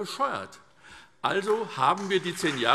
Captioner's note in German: Beifall SPD